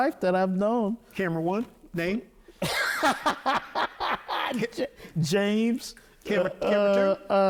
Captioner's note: laughing